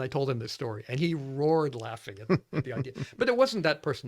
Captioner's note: laughs